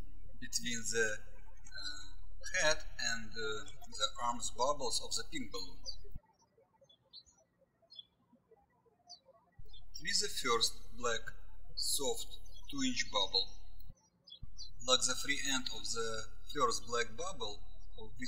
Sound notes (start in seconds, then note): 7.2 birds chirping